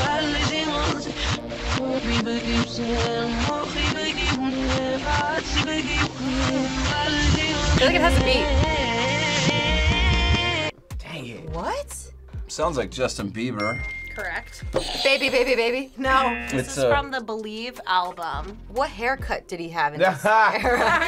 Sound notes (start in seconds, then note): 13.6 audio dings; 16.2 audio buzzes